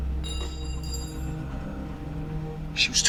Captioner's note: metal clanging